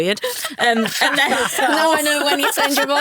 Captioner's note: all chuckling